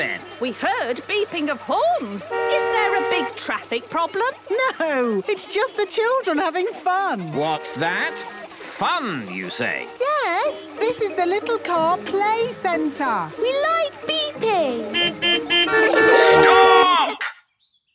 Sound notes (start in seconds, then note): 14.4 horns beeping